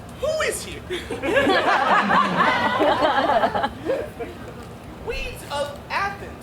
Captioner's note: audience laughs